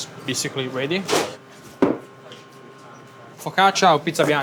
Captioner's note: tray whooshes; tray thuds